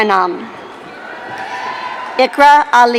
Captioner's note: audience cheering